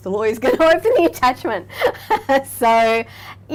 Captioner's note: laughing